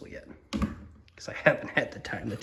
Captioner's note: thunk